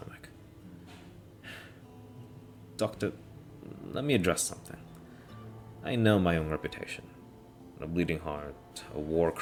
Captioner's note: sigh